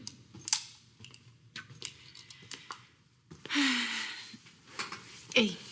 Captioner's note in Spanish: Ruido al cargar el arma